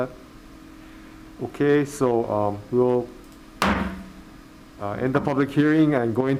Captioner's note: gavel bangs